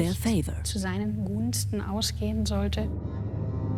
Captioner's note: speaks German